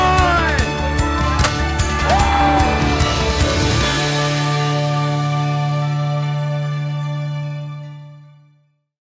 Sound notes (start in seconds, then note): 1.0 cheers; 1.6 upbeat music fades